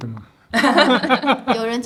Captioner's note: laughter